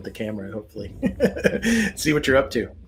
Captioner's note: chuckles